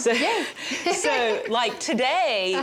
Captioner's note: laughs